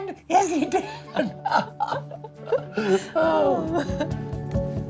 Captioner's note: laughing; inspiring music